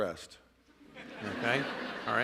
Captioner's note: laughter